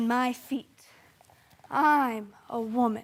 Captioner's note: soft breathing